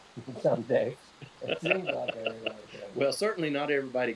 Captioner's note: both laughing